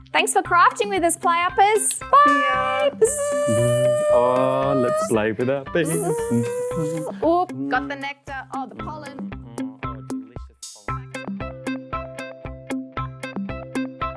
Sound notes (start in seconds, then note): 3.5 makes buzzing sound; 5.8 both makes buzzing sound; 11.0 ambient music playing